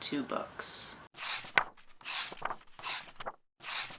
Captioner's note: pages turning